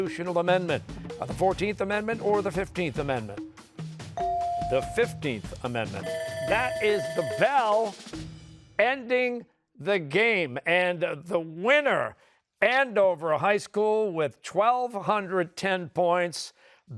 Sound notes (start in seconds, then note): 6.0 bell rings